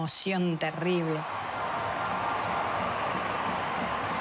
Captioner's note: crowd roars